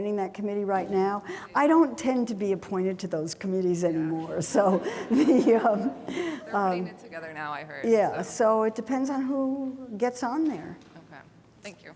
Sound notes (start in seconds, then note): 4.4 laughs